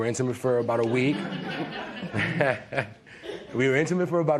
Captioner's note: laughter